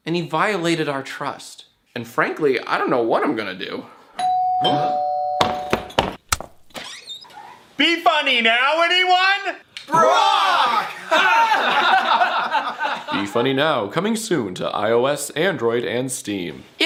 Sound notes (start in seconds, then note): 4.2 ding dong; 5.4 sounds of hands in various states of moist hitting a door handle; 6.6 door squeaks open